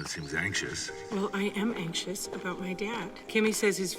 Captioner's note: voice echoing